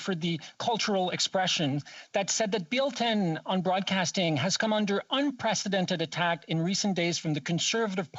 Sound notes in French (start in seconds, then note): 1.0 voix de l'interprète